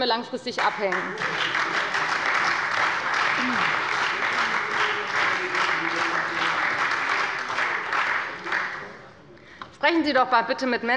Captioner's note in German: Beifall bei der FDP und bei Abgeordneten der SPD